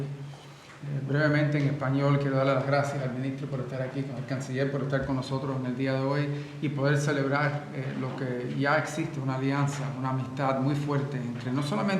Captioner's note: in Spanish